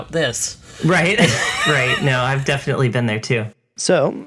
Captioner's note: laughs